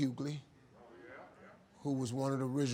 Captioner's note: audience murmuring